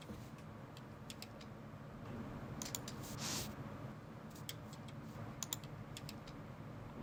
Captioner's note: shhhh